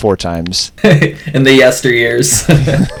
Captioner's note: laughs